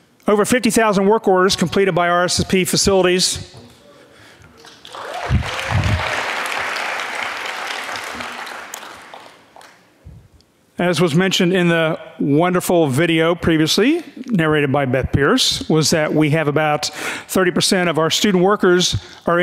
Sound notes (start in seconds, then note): 4.5 audience clapping